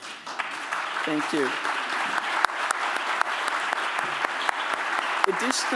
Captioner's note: applause